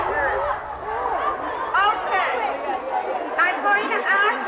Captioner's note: shouting, murmuring continue